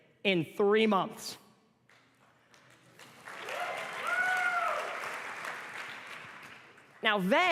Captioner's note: applause and cheers